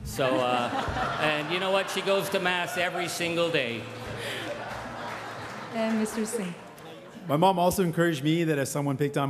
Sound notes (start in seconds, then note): 2.5 crowd laughing; 6.0 crowd laughing and applauding